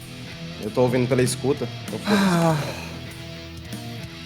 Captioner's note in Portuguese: suspiro